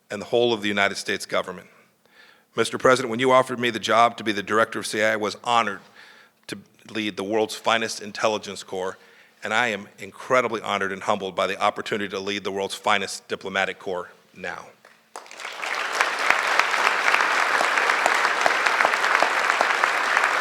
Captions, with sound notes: and the whole of the United States government. Mr. President, when you offered me the job to be the Director of CIA, I was honored to lead the world's finest intelligence corps, and I am incredibly honored and humbled by the opportunity to lead the world's finest diplomatic corps now. (Applause.) Mr. President, you read one of --